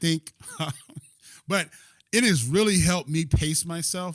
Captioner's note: laughter